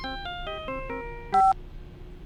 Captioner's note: beep